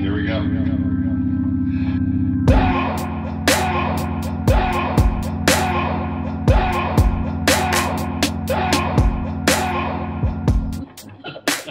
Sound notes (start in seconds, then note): 2.5 man vocalizing; 2.5 hip hop music; 8.5 man vocalizing; 10.8 man laughing